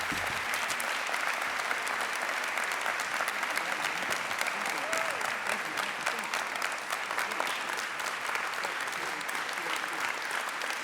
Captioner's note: applause